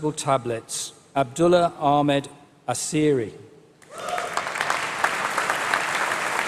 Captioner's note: applause